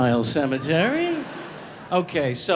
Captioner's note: audience laughing